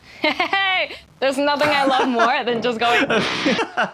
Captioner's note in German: lacht